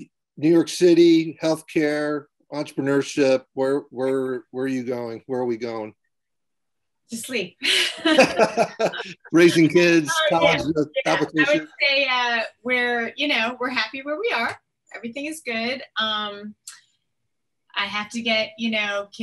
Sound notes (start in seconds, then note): 7.9 laughing